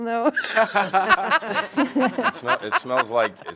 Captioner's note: laughter